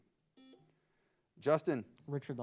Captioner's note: buzzer beeps